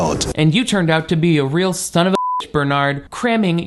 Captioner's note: beep